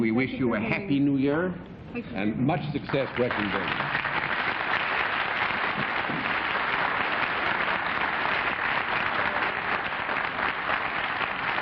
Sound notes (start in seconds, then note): 5.2 applause